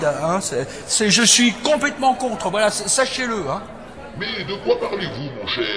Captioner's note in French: voix du président de l'Assemblée